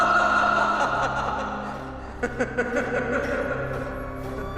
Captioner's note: tertawa tertawa